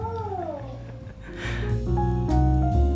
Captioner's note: quietly laughing